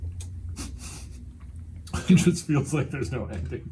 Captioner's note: laughs